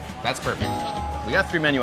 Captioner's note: bell dinging